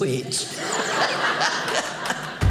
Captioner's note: audience laughing